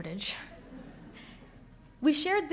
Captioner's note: audience laughing